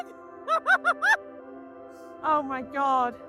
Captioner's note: laughter